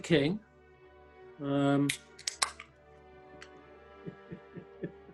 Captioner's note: opens can; chuckling